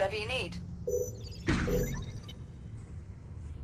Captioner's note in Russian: Настороженный щебет